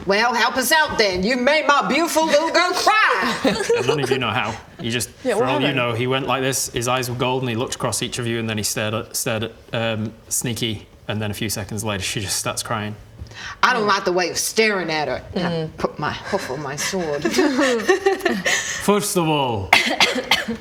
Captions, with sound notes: Well help us out then, you made my beautiful little girl CRY! *sobs* And none of you know how you just, for all you know - he went like this - yeah what happened? his eyes were golden he looked across each of you and then he stared at stared at Sneaki and then few seconds later she just starts crying I don't like the way you're staring at her mmm put my hoof on my sword first of all